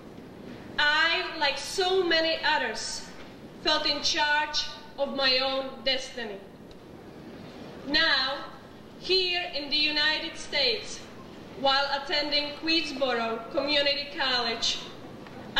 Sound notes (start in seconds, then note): none